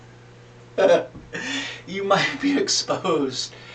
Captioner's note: laughter